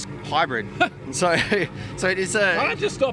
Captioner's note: chuckles